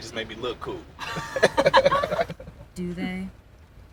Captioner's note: Downbeat and Jacketman laugh